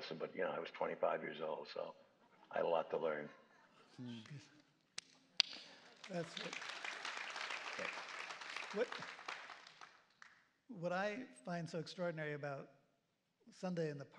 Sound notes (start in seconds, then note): 5.4 applause